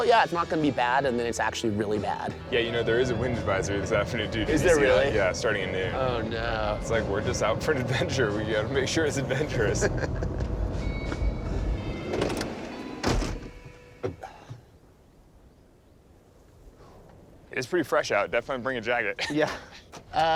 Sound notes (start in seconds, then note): 9.2 laughing